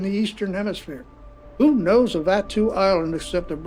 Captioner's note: water gently lapping